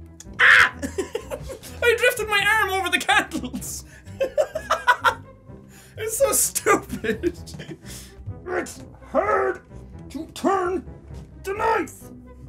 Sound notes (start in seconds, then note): 0.3 laughs; 3.2 laughs; 9.0 grunting